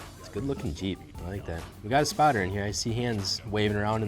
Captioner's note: none